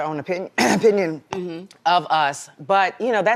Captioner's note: clears throat